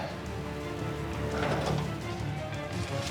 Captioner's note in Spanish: sonido al abrir la puerta